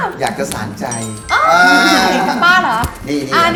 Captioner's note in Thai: ร้อง